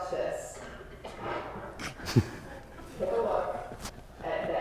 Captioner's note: paper rustling